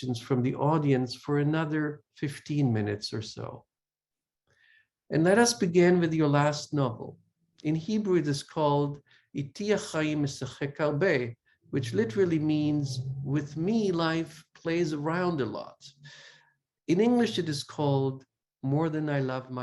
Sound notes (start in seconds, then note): 9.0 Hebrew